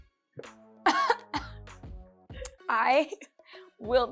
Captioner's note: coughs